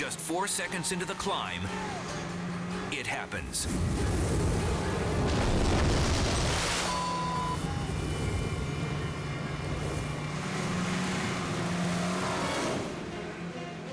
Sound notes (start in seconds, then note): 3.8 wind rustling; 6.9 beep; 10.3 boat engine revving